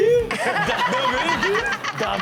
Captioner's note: Chanel laughs